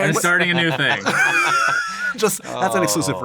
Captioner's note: laughter